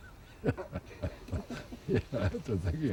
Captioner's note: laughing